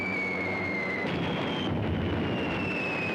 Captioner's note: explosions